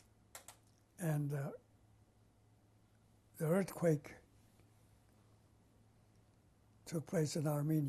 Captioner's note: pauses for 3 seconds